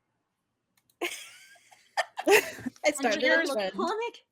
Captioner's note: laughs